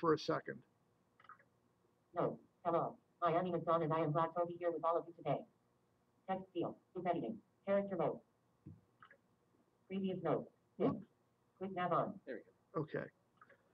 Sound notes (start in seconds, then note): 0.7 software talking